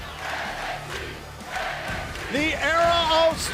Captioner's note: fans chanting